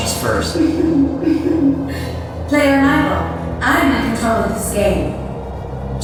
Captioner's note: chuckles